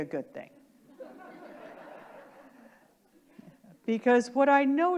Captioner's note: audience laughing